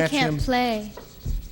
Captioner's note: laughing